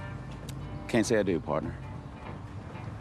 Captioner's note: As Nate